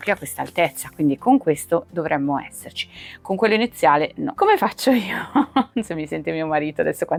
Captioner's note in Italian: risate